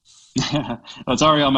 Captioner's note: laughing